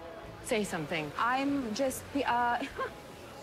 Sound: chuckles

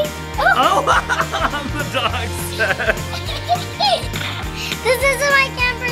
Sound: laughs

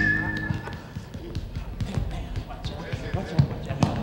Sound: ball thuds

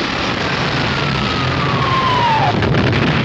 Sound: gunfire and explosions

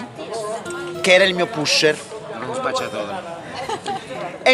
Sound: laughing

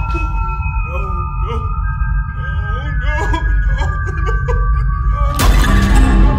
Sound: sobbing; tense dramatic music

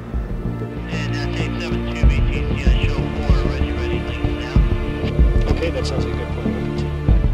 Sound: radio chatter

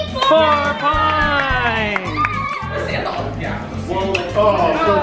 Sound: cheering

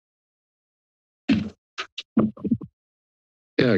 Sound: thud

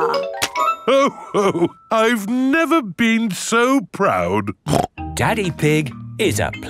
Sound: snorts

